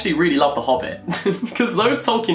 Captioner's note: laughs